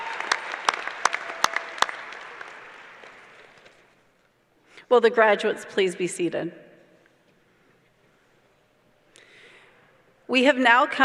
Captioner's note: applause